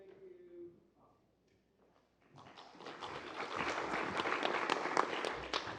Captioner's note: applause